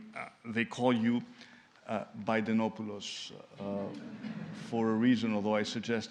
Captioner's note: laughter